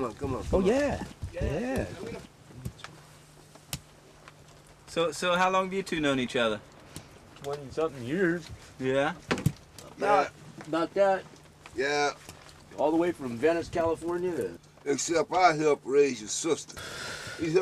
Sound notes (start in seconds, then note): 4.8 voice off camera